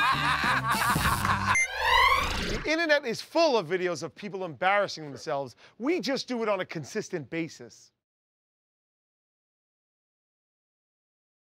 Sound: laughter; buzzer sounds

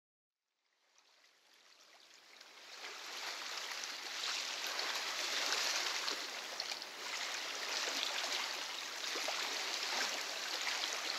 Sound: waves gently lap into secluded bay

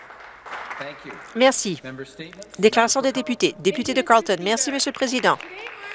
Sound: applause

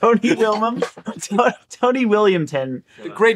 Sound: laughing

